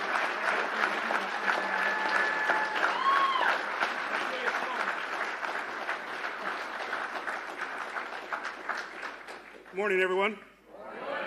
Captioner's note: applause